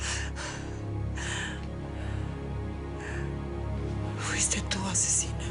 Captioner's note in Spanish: Sollozos